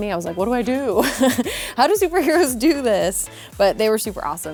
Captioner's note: laughing